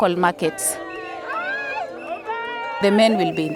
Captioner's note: crowd cheering